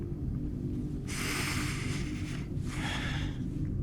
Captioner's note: Joseph inhaling; Joseph exhaling